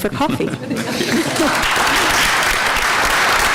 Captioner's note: applause